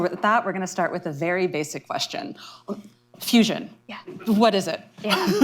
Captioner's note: laughter